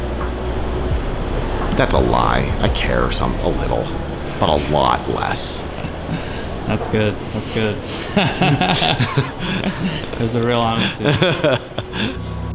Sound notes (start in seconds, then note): 8.2 laughs